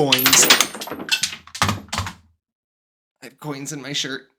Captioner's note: clattering